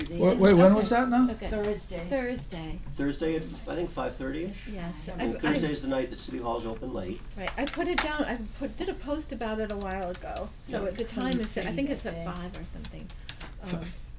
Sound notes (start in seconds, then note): 0.0 voiceover; 7.4 voiceover